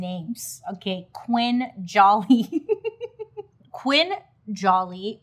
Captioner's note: laughing